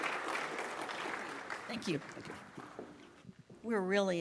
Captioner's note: applause